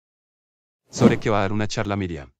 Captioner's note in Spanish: FX - Whoosh - 03